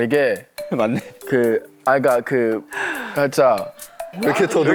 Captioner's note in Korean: 매우 수상한 말 더듬